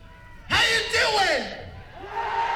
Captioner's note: screaming